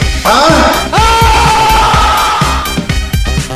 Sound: scream

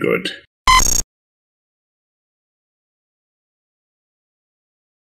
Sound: bright tone beeps

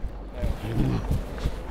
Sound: grunting

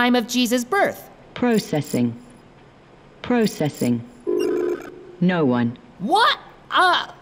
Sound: beeps

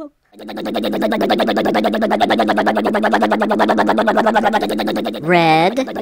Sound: crane motor

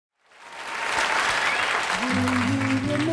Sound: cheering, clapping

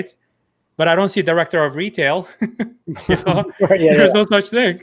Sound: chuckles

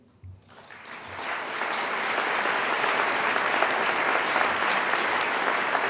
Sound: audience applause

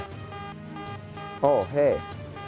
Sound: beeping

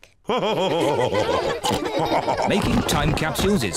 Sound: all laugh

